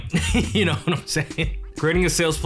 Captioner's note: chuckles